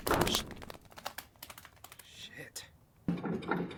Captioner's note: flapping wings